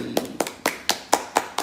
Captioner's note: hands clapping